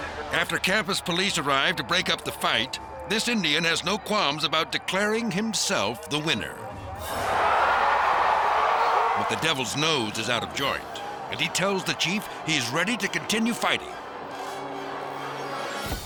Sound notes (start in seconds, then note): 0.0 crowd shouting; 7.6 crowd cheers